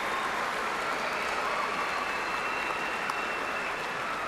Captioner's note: applause